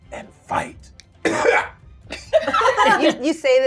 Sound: gamers laughing

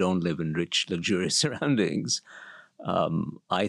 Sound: laugh

